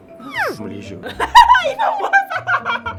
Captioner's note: evil laughter